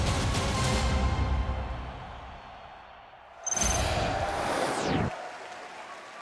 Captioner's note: crowd cheering